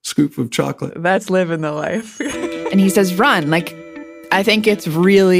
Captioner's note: laughs